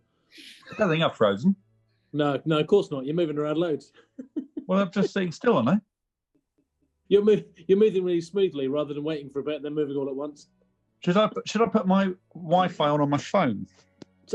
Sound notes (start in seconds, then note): 0.5 sniggering; 3.9 giggling